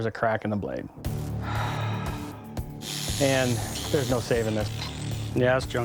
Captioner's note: sigh